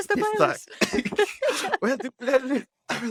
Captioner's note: laughs